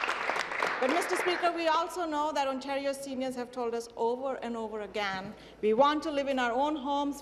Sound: applause

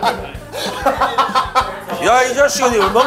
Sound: hahahaha

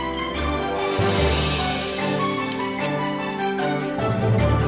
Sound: clicking

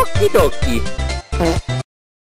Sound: fart Noise

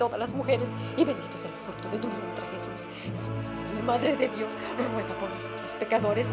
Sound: praying in Spanish

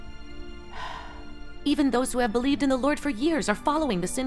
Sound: sigh

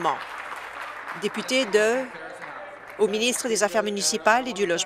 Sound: applause

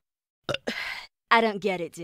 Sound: burps

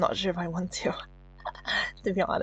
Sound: slight laugh

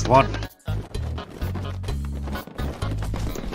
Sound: running in the distance

